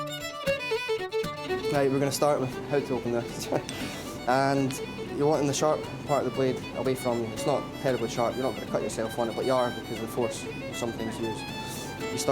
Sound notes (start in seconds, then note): 0.1 upbeat folk violin music; 3.5 laughing